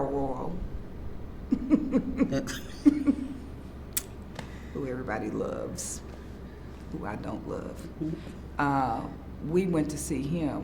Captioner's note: laughs